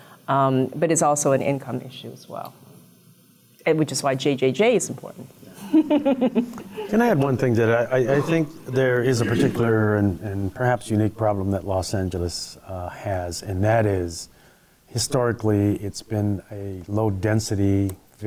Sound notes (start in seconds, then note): 5.6 laughing